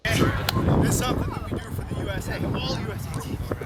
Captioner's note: voiceover